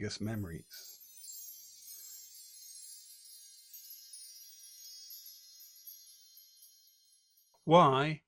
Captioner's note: tinkling of fairy bells